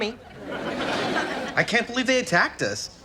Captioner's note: audience laughs